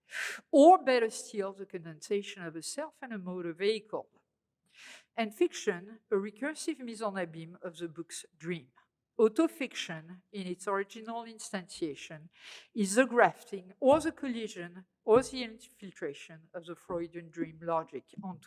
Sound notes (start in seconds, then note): 6.8 french